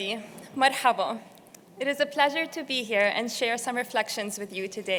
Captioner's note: non-english speech